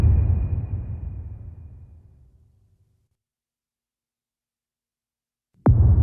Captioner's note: dramatic sound